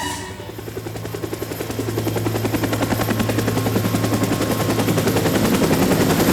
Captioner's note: helicopter blades clattering